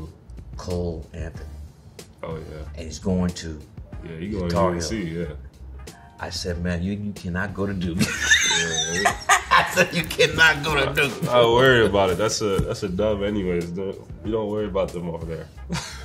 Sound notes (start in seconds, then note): 7.9 laughs